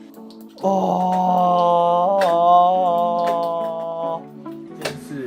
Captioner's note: joyful sounds